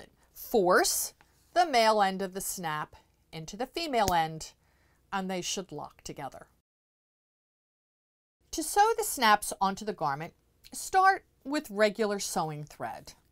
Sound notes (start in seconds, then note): 6.5 no Sound Present